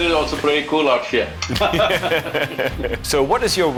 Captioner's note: both laugh